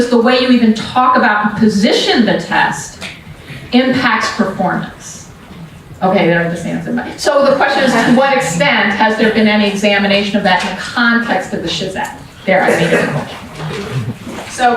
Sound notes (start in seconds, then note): 7.4 audience laughs